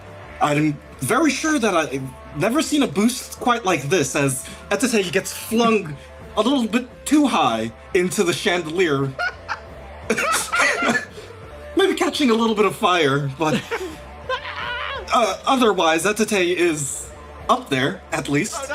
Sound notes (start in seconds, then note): 10.0 laughs; 14.2 screams